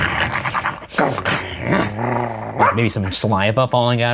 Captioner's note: both snarling; growling